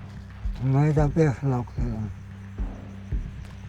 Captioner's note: speaking Spanish